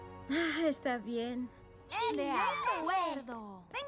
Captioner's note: squeals